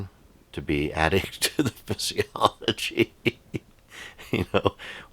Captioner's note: laughs